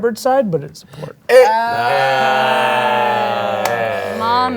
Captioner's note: all exclaiming